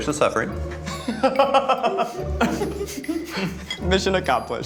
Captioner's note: laughing